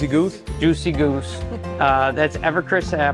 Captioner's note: chuckling